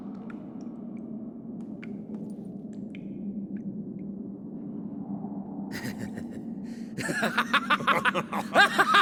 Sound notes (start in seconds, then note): 6.9 chuckle; 7.0 laugh; 8.5 all laughing